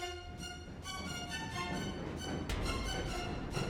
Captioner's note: loud footsteps on stairs